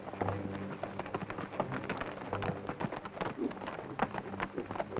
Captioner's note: hooves clop